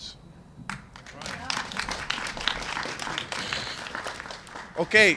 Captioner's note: applause